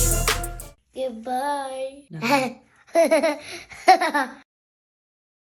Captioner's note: laughing